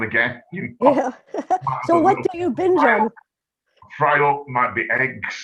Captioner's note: chuckles softly